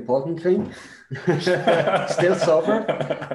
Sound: laughs

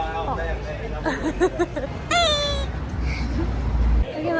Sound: laughs

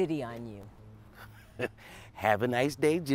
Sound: laughs

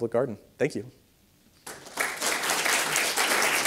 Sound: audience applauds

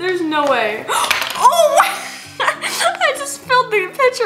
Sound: snickers

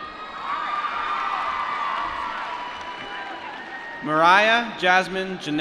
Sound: applause

